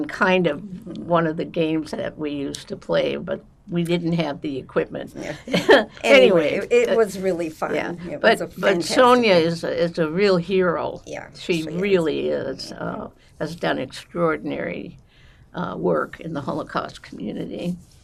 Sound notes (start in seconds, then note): 5.2 laughing